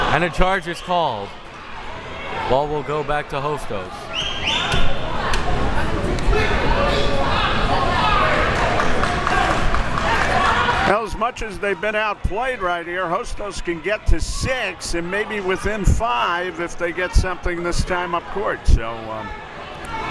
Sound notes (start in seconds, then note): 6.0 shouts